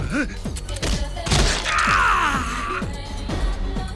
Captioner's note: screams